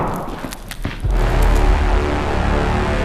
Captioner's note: loud thud; dramatic music intensifies